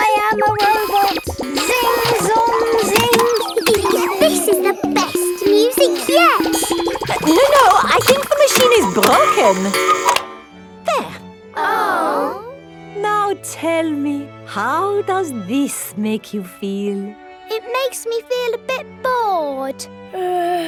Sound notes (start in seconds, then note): 3.8 giggles; 10.2 cuckoo clock; 13.2 chamber music playing; 20.2 yawns